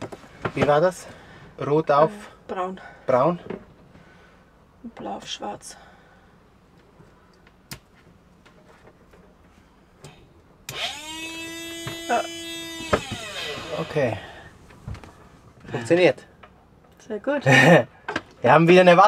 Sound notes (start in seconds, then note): 10.7 submersible pump humming; 17.9 laughs